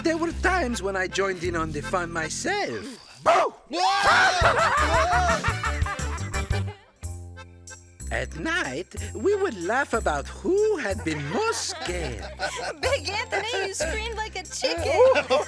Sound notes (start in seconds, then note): 3.2 both screaming; 4.0 woman laughing; 12.2 all laughing